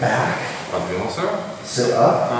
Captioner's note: speaking in a foreign language